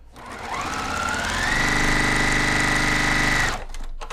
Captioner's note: machine sewing